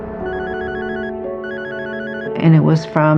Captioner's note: phohonene r rinining